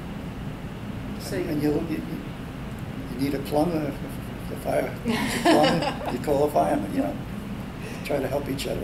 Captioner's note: all laugh